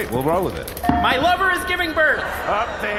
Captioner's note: crowd erupts in confusion